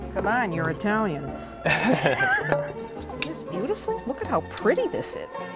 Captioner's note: laughter